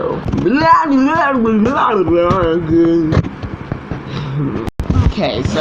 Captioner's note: continues Blabbering